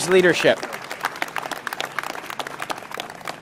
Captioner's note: applause